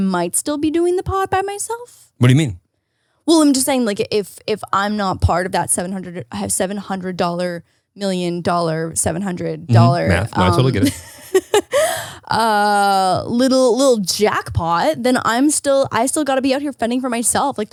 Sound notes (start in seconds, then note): 11.3 laughs